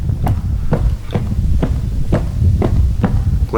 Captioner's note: footsteps